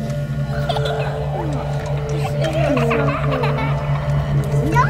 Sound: child laughing

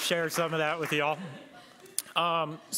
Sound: laughter

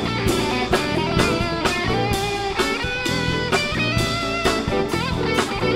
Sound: none

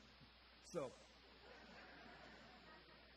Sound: audience chuckles

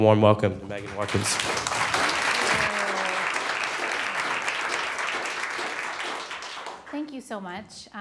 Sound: applause

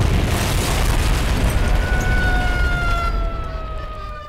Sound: siren wailing

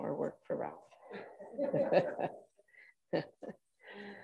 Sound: group laughing

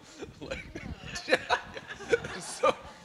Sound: laughter

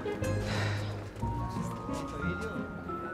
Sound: sighs

